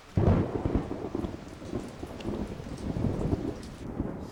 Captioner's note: thunderclap